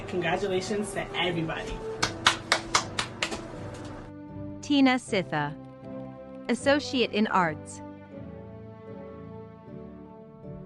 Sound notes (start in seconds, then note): 2.0 applause